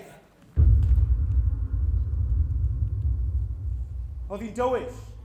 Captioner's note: night-time street ambience